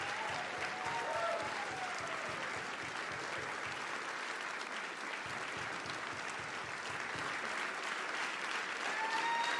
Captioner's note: applause